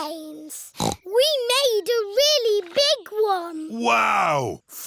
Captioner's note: snorts